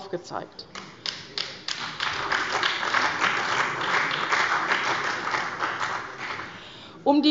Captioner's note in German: Beifall bei der CDU und dem BÜNDNIS 90/DIE GRÜNEN